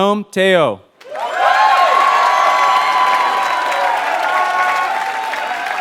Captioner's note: applause